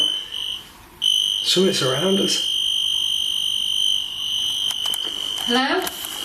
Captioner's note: metre beeping